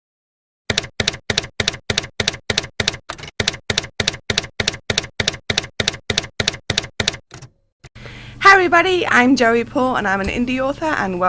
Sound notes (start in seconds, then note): 0.7 typewriter keys clacking